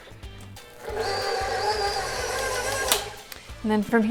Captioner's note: mixer whirring